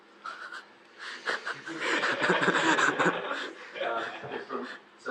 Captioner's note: audience laugh